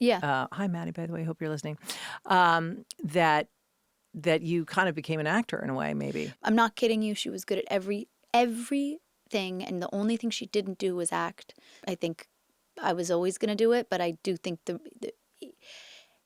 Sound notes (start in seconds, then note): none